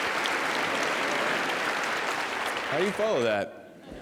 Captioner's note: laughter